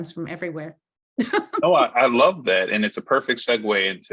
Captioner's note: laughing